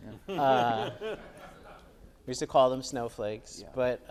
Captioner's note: audience laughs